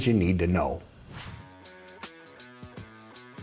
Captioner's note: screen whooshing; light music